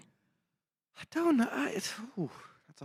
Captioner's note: none